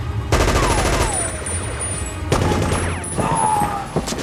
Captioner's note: machine gun firing